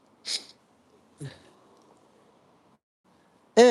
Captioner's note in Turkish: homurdanır